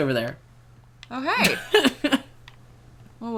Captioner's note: laughs